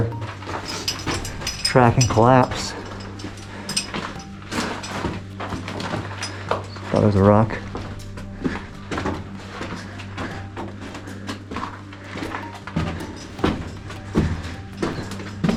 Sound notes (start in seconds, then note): 0.0 metal clanking; 0.3 footsteps; 2.8 footsteps; 2.8 metal clanking; 7.4 heavy breathing; 8.5 footsteps